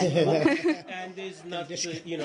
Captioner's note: laughter